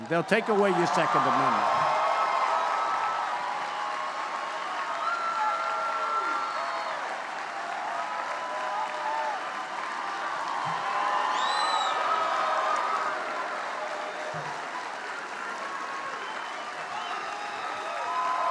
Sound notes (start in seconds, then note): 2.1 applause